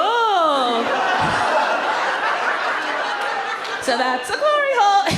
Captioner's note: audience laughs